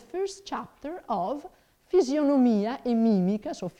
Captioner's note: speaking in foreign language